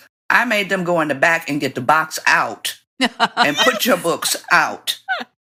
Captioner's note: laughter